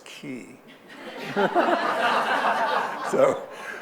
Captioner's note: audience laughing